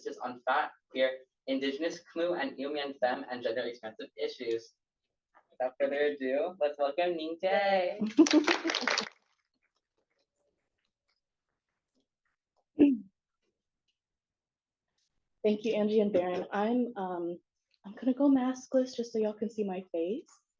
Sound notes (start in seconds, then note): 8.1 clapping